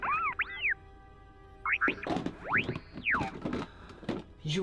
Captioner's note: R7 insulting on comlink